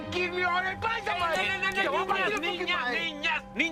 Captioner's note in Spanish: Gritos al unísono